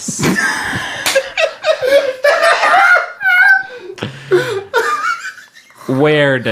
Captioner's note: all laughing